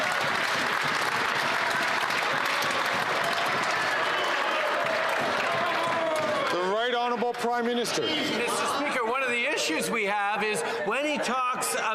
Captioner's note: some Applause